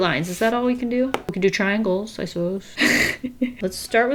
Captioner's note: laughs